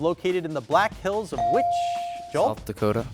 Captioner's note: buzzer dings